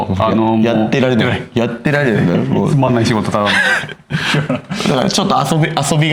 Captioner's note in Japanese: 笑い